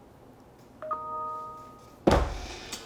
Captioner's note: beeping